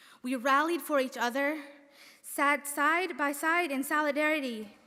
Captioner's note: none